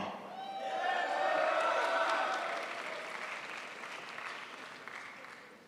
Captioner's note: crowd applauds